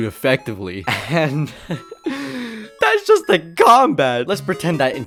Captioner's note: laughs